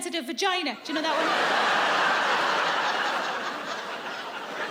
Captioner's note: audience laughs